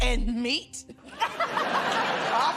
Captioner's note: laughter